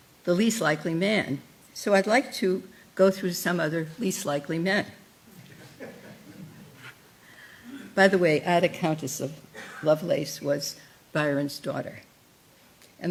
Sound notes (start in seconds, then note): 5.3 laughter